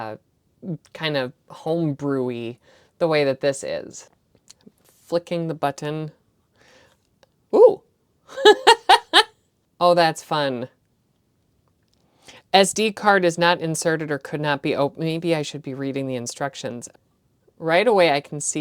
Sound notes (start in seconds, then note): 8.3 nerdy laughter